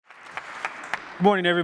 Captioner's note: applause